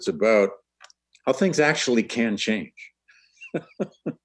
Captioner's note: laughs